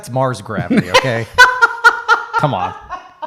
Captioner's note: laughing